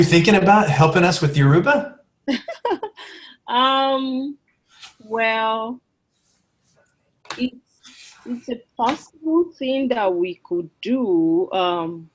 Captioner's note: laughs